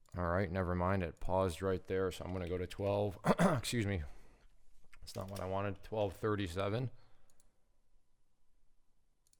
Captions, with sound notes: All right, nevermind, it paused right there, so I'm gonna go to 12. (clearing throat) Excuse me. That's not what I wanted. 12.37.